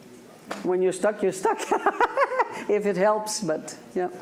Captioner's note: laughs